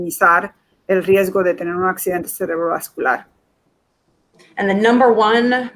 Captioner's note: speaking in Foreign Language